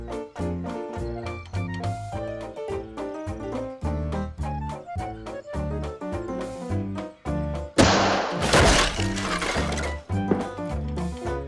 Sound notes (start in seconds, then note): 7.8 crashes